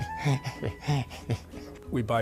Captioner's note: chuckling